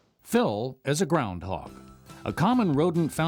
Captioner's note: voiceover